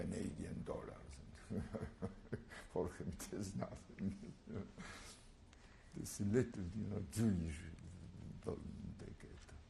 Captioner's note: laugh